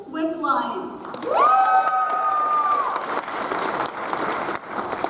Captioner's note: audience applauds